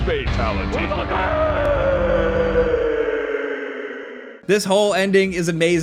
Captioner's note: screaming